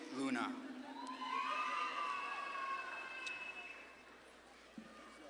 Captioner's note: audience claps and cheers